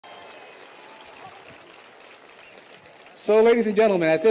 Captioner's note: audience applauds